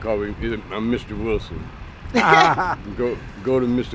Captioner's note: laughter